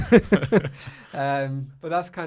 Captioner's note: laughing